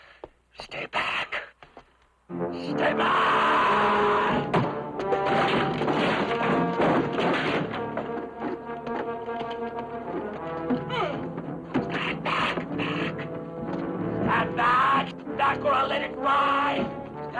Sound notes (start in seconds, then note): 3.5 suspenseful orchestral music; 11.8 man grunting